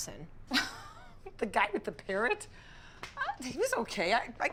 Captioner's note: giggling